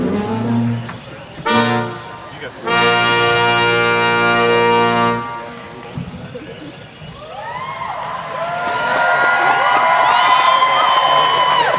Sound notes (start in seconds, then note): 7.1 cheering